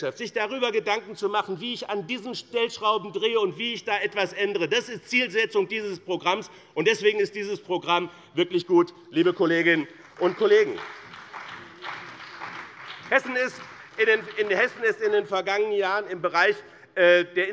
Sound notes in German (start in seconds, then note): 9.6 Beifall bei dem BÜNDNIS 90/DIE GRÜNEN und der CDU